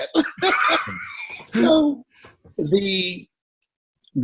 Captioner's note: both laughing